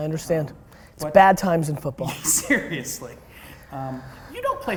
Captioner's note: laughs